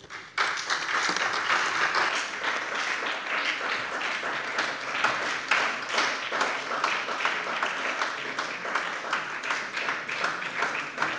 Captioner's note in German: Beifall bei der SPD